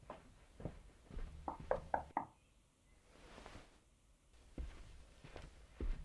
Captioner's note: hand knocking on door